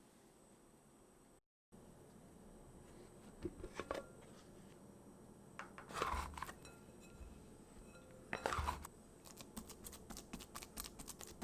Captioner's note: folding